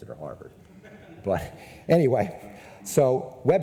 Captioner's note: people in audience laugh